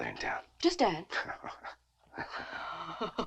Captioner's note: Nick chuckles; Nell chuckles